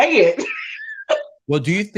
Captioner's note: laughing